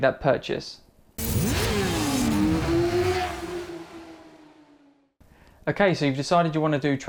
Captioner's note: motorcycle engine roaring